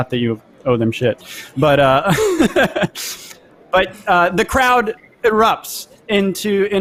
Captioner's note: laughs